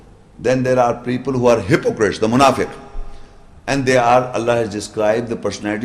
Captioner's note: Arabic